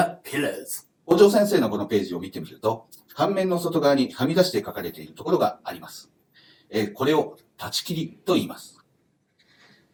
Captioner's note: speaking Japanese